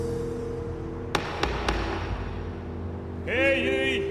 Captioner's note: gavel banging